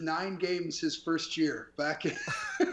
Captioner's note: laughing